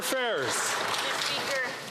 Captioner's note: some Applause